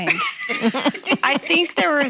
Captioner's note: laughing